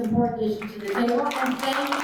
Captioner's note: attendees applaud